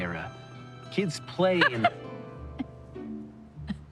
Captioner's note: laughing